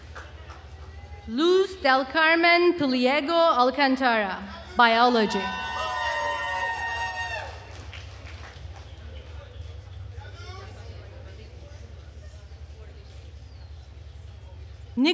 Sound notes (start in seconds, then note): 4.6 attendees cheering and applauding